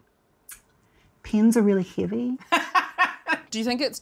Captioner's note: laughs